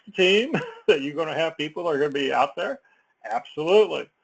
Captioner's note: laugh